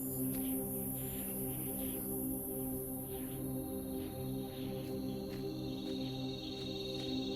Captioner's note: A Whistling wind picks up